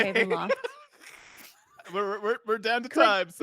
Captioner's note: laughs